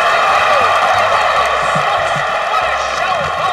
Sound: Jess speaks in Spanish

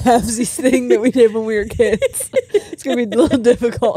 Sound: both laughing

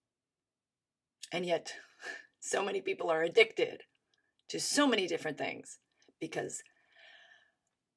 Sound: inhales deeply

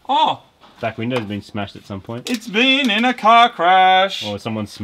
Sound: singsong

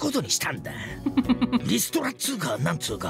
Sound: chuckles

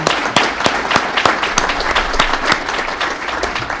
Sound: applause

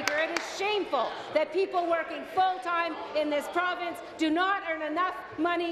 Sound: applause

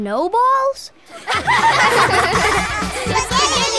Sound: laughing

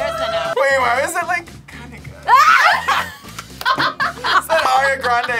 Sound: both laugh

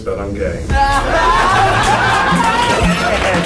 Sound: all cheering

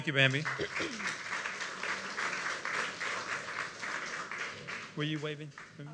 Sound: applause

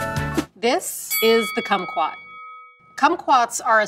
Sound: bell dings

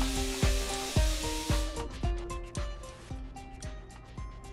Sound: machine whirs; soft music

